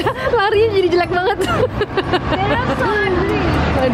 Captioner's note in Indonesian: Ketawa